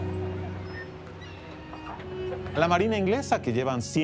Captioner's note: in Spanish